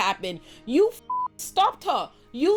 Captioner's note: beep